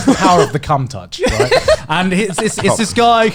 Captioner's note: laughing